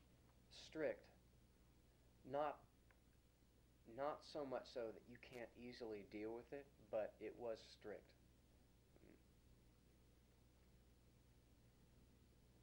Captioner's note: pause